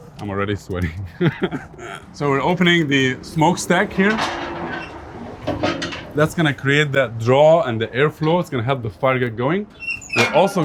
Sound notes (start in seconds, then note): 0.8 laughs; 5.3 metal creaks